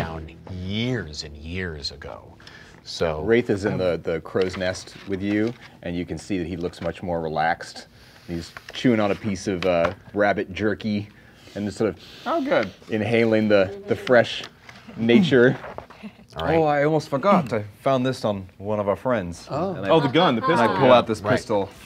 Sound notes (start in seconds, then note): 11.9 inhaling